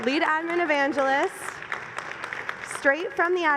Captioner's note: applause